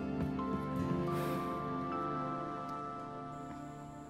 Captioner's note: Deep sigh